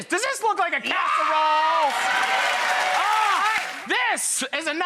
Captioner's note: audience cheering